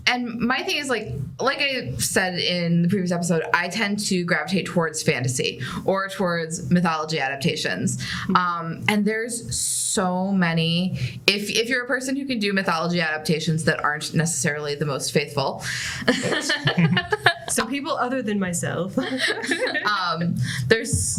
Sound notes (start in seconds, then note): 16.0 laughter